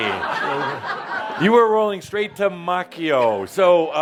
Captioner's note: laughter